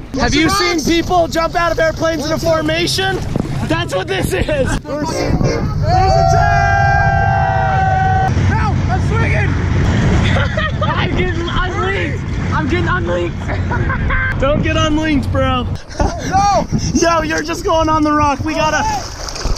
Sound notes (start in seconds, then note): 5.2 train honk